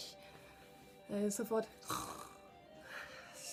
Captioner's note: snore!